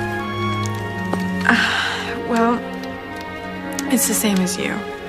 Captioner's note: sighs